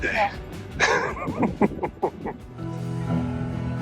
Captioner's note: laughing